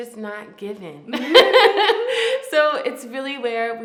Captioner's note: laughs